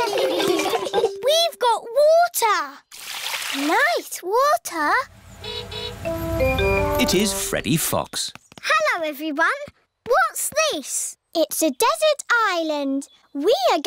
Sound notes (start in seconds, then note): 0.0 laughter; 5.1 horn honking